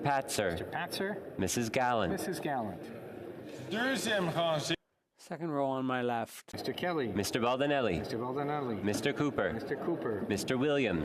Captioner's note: calling of recorded vote